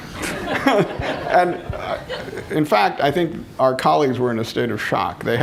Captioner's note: laughter